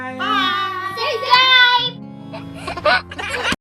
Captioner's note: laughing